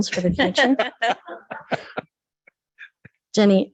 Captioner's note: members laughs